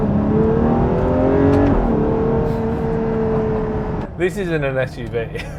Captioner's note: acceleration